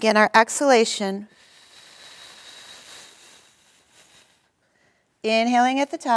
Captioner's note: exhaling